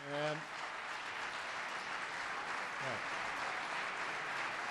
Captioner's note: applause